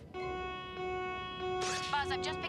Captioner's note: alarm sounds